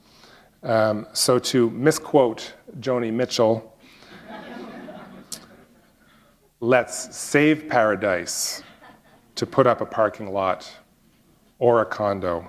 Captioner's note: laughter